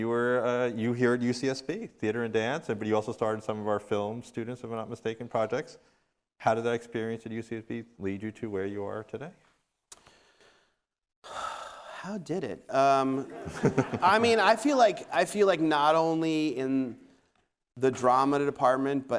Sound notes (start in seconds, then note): 13.2 audience laughing